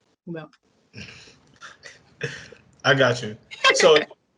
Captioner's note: chuckles; laughs